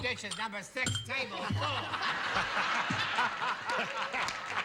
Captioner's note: laughter